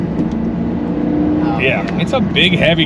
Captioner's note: engine revving rapidly